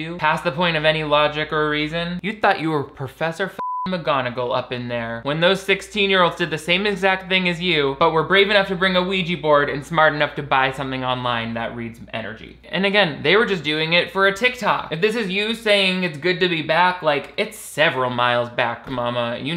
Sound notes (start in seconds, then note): 3.5 beep